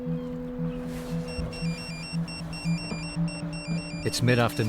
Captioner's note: light music; seagulls crying; phone rings